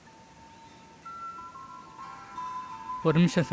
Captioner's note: phone rings